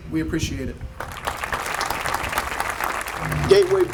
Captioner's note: audience applauding